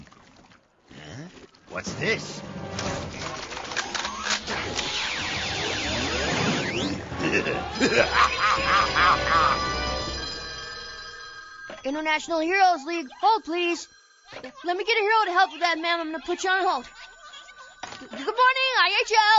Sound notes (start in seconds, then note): 7.1 evil laughter; 9.7 bell ringing